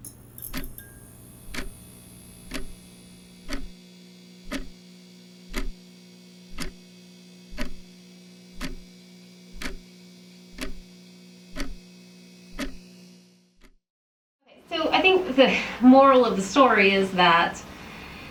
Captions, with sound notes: [Fluorescent lights buzz] [Clock ticking continues] Okay so I think the moral of the story is that